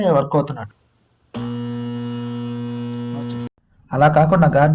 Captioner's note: motor hums